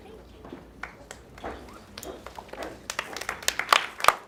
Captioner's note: applause